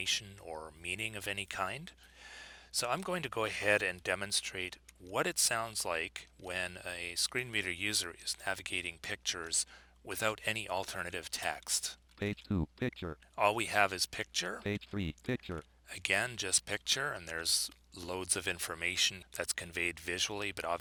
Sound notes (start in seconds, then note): 12.0 synthesized speech; 14.7 synthesized speech